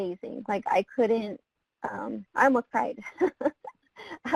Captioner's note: laughing